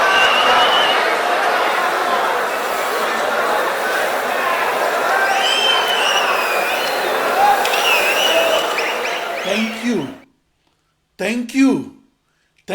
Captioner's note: wild applause and cheering for 22 seconds